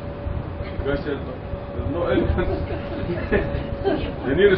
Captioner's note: Gülüyorlar